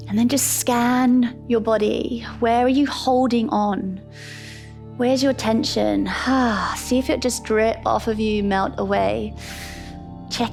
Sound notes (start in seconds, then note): 4.1 inhales; 6.3 exhales